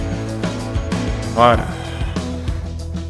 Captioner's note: sigh